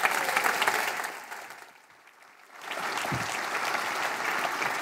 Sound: applause

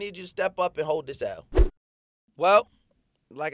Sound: swooshing

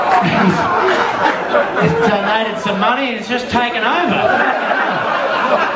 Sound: laughs

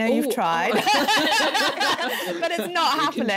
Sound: laughing

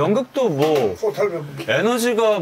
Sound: chuckle

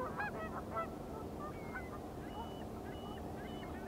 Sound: birds chirping

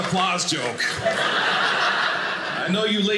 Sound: audience laughing

